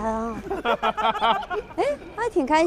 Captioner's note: hahahaha